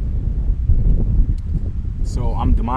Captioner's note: air whooshing